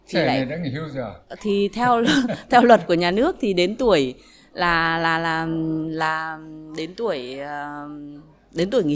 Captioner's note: laugh